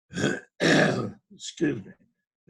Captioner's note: clears throat